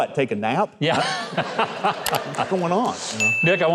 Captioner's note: laughing